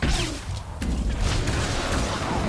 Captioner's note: gunshots